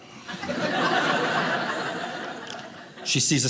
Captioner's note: audience laughing